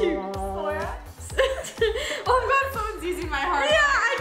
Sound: laughs

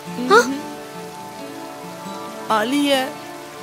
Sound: weeping

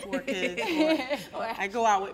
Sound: all laugh

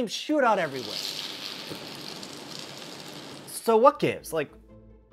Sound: bzzzzzztttttttt

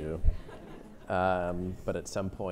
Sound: audience chuckles

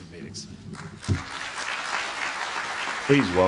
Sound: applause

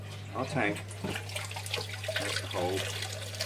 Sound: water gently splashing

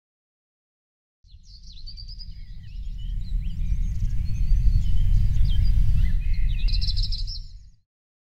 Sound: birds chirping

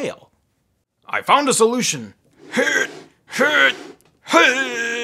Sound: grunting

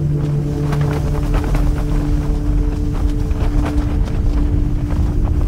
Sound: wind flaps tent noisily

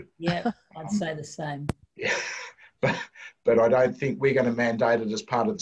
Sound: chuckle

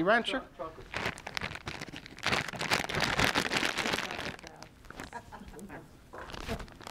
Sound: bag rustling, audience laughing

